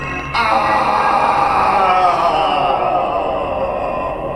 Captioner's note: Adam moans loudly